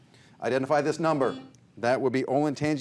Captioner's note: buzzer buzzes